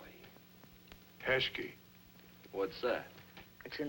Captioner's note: non-english